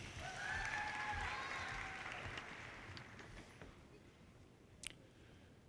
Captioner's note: audience cheers and applause